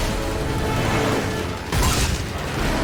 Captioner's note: plane engine; crash; plane engine